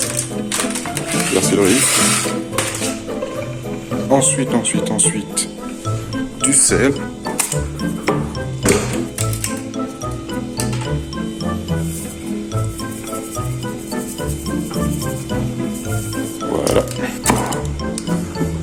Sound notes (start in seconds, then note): 12.6 sound of salt shaking